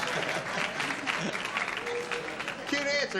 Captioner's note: applause